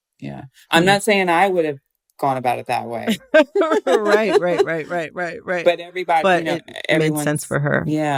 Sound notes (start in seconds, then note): 3.0 laughter